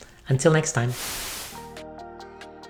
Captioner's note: air whooshing; upbeat music